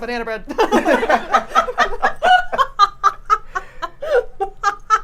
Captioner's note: laughing